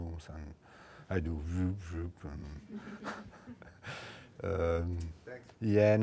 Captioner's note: laughs